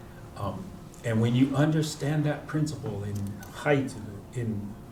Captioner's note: non-english